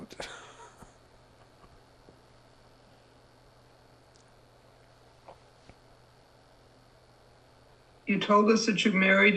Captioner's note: laughing